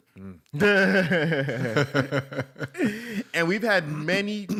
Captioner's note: laughter